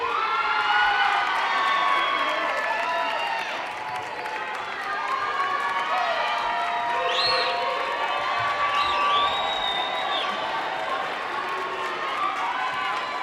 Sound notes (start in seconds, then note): 0.3 audience cheering; 8.6 audience whistling